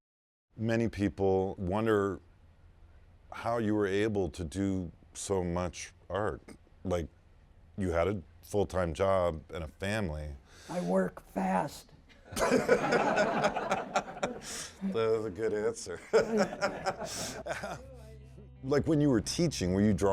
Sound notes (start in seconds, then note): 12.2 laughing